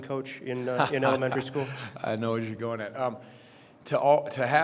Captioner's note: chuckles